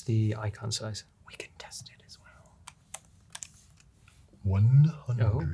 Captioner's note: whispering